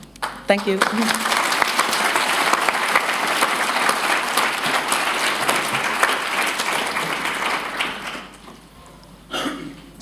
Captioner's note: applause